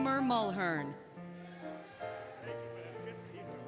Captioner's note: applause, Cheering, Music